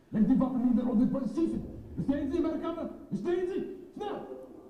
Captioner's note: speaks in foreign language